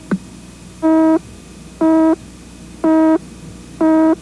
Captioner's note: timer beeping